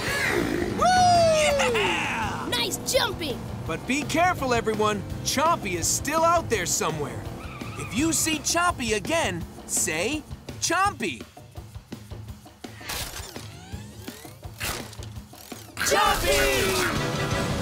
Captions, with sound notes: [cheering] Nice jumping! But be careful everyone, Chompy is still out there somewhere. If you see Chompy again, say "Chompy". Chompy!